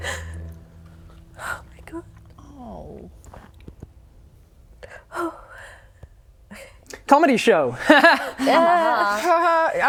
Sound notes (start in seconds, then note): 5.1 sigh